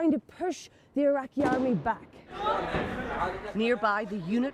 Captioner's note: gunfire